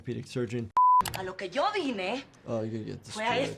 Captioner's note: person speaking foreign language